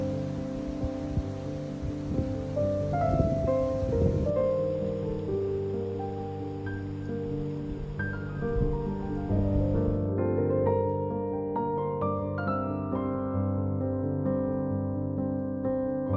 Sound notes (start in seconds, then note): 4.6 expressive piano music; 4.6 leaves gently rustling; 10.4 expressive piano music